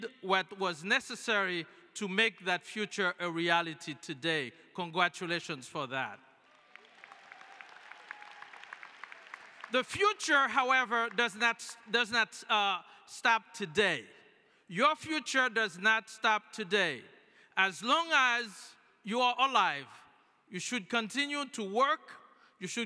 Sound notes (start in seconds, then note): 6.4 applause